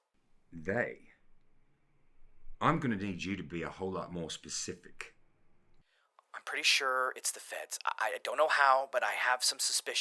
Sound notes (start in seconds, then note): none